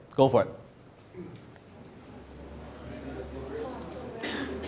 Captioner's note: audience murmurs